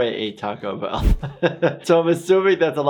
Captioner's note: laughs